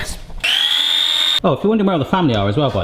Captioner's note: blender whirring